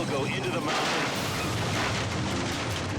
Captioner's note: helicopter crashing; dramatic music